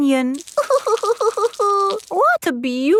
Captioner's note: crying